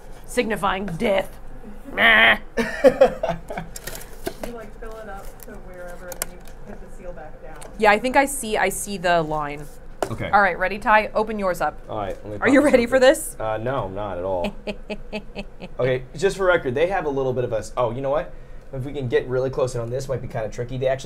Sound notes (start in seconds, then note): 14.4 chuckles